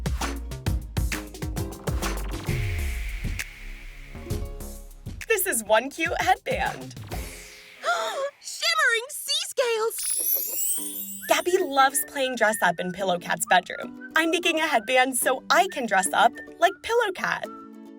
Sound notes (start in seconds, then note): 7.8 gasps; 10.0 chime